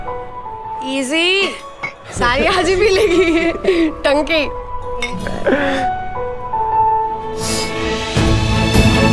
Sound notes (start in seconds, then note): 2.6 laughs; 5.0 toasting; 7.3 Bani gasps